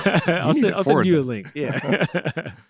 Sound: laughter

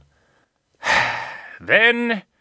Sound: heavy Sigh

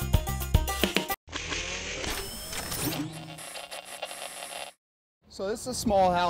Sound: mechanical noise and static

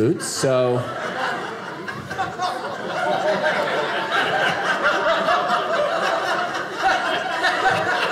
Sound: audience laughing

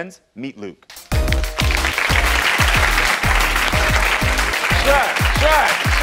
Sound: upbeat music; audience applauds

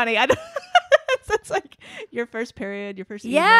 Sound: laughs

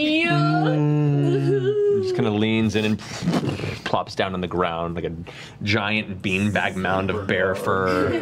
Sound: bear noises

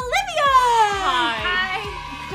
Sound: cheer

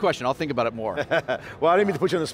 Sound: laughing

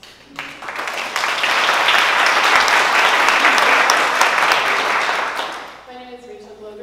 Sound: applause

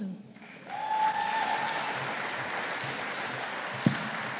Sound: audience applauding

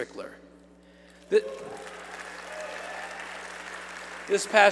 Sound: applause

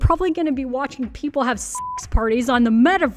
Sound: beep

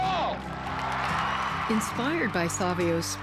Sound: audience cheering

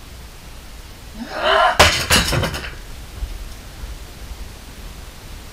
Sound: person growling

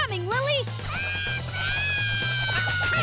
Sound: screaming

